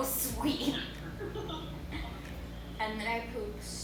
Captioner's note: laughing